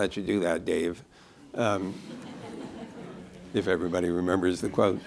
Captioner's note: laughter